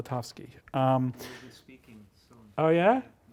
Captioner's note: speaking softly